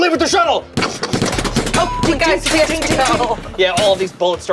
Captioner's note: guns banging